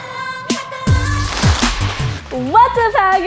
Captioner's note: paper rustling